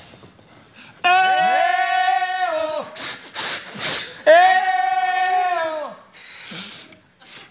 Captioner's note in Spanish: soplidos